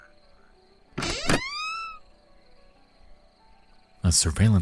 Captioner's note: door handle clicks; door squeaks